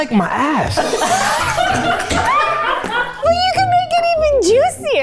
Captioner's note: everyone laughs